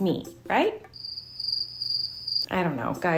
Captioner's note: crickets chirping